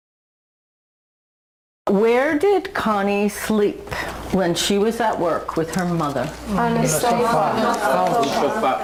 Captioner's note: students speak out their answers